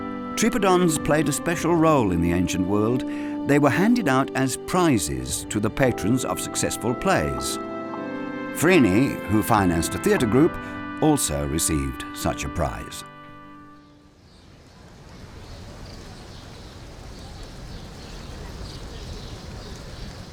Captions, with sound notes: Tripodons played a special role in the ancient world. They were handed out as prizes to the patrons of successful plays. Phryne, who financed a theater group, also received such a prize. (birds chirping)